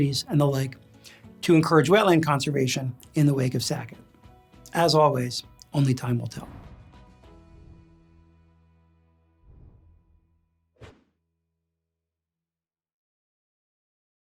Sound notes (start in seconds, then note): 7.1 gentle upbeat music; 10.8 graphics whooshing